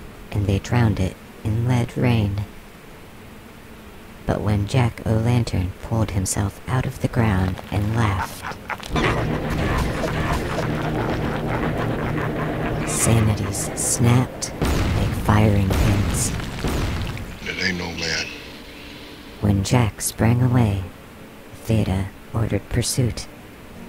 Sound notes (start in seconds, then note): 9.3 Jack O'Lantern cackles manically; 15.0 concussive explosions — bam! Bam! Bam